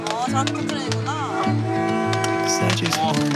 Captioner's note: and with the sound of a horn